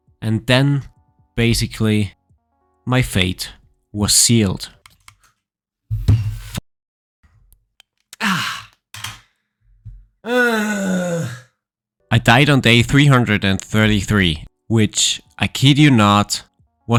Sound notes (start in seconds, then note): 6.6 desk thumping; 10.2 groaning